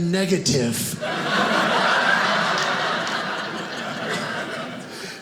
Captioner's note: audience laughing